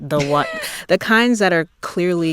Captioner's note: laughter